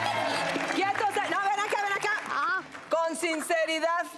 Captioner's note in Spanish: Aplausos